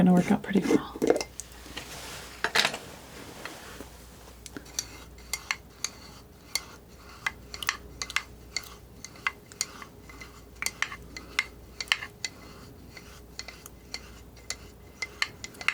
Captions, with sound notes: work out pretty well. (scratching)